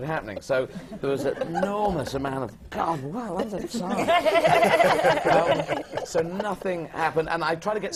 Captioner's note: laughter